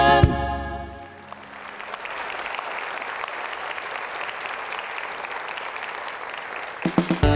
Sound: applause

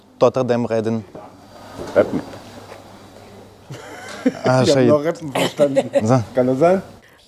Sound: laughs

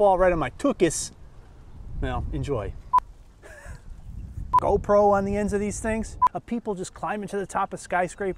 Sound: laugh

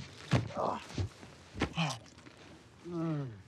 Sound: grunts; Rufus moaning

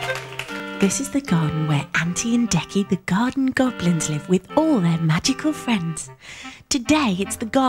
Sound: voiceover

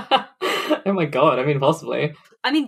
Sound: laughs

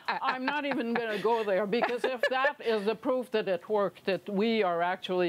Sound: laughter

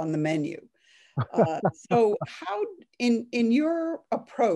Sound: laughing

